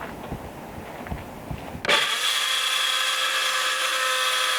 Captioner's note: saw whirs